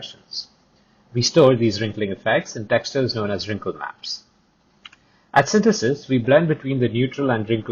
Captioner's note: click